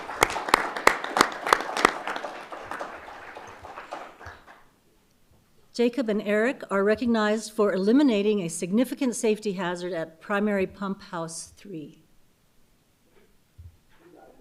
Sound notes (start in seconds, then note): 2.7 applause